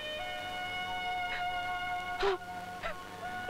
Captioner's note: Sobbing